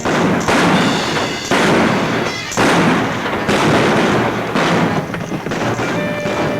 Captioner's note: guns bang; exciting music